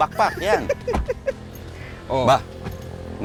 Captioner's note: laughs